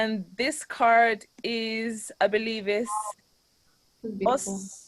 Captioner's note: in foreign language